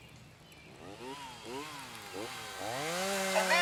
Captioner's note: chainsaw buzzing